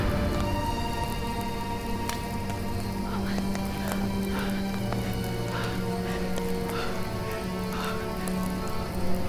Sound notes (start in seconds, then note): 0.6 fire raging; 3.4 dramatic music; 6.0 fire raging; 9.1 dramatic music